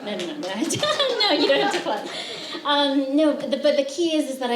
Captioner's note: laughter, applause